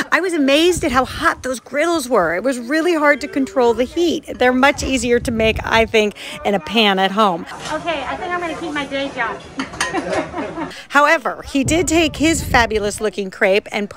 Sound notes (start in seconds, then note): 9.8 laughing